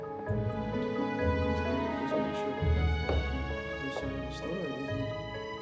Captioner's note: indistinct chatter